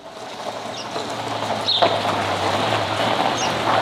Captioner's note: car approaching